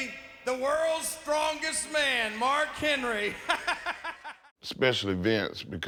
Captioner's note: laughs